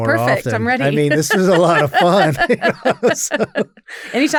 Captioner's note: laughs